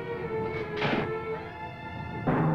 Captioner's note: door slamming; dramatic music